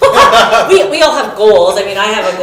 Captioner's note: laughing